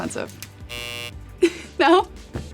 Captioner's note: buzzer buzzes